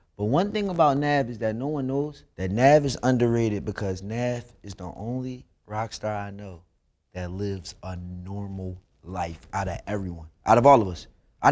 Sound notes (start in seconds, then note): none